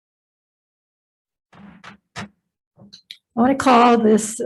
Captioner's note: gavel bangs